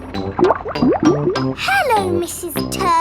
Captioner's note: bubbling